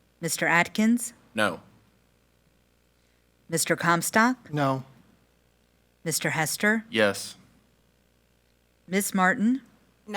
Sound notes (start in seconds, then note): none